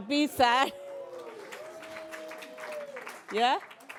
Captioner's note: applause